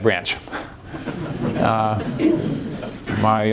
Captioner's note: laughter